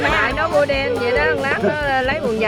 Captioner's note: the ladies are talking